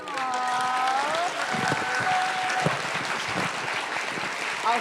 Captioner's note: audience applauding